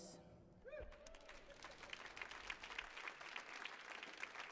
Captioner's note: audience applauds